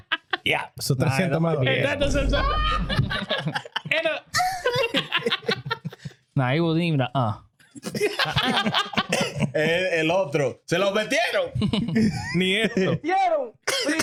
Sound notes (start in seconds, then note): 0.0 laughing; 0.0 speaking In Foreign Language; 1.7 laughing; 7.8 laughing; 8.0 speaking In Foreign Language